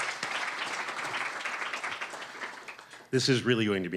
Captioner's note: applause